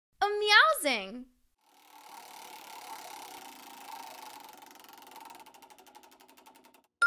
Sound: whirring

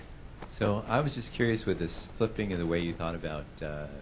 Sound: voiceover

